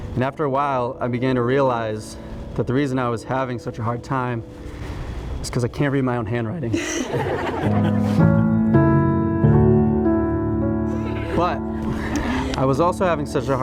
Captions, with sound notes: And after a while I began to realize that the reason I was having such a hard time, is 'cause I can't read my own handwriting. (people laughing) (slow bright music) But, I was also having such